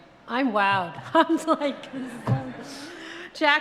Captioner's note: audience laughs